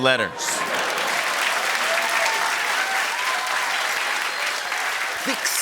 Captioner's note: laughter and applause